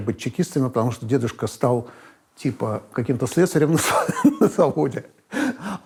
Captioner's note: laughs